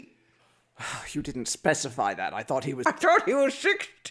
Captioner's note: sighs